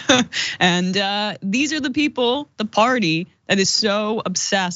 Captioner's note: laugh